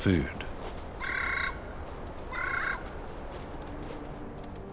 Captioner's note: bird squawks; majestic music